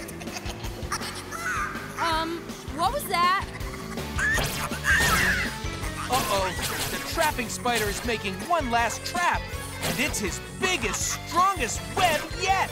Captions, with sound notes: Um, what was that? [squeaking] Uh oh, the trapping Spider is making one last trap, and it's his biggest, strongest web yet.